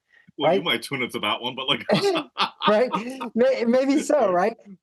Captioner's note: laugh